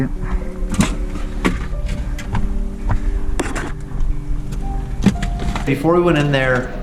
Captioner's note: clattering; thumping